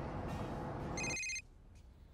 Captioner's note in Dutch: telefoon gaat